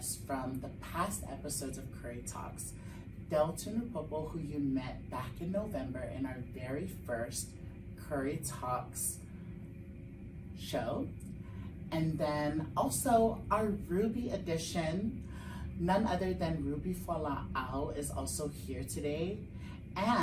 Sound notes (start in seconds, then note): none